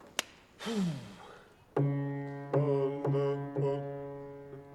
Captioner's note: bass voice